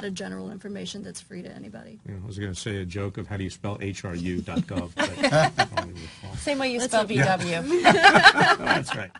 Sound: laughter

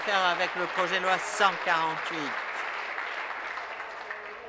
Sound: applause

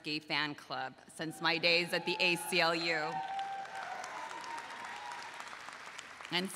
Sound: crowd applauding

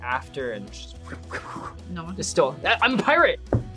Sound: makes whooshing sounds

